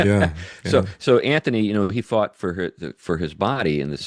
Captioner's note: laughs